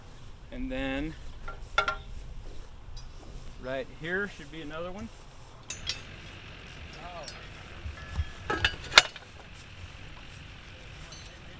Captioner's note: fireworks setup sounds